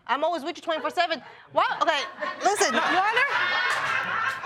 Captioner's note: audience laughing